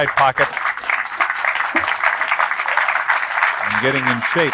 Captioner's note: applause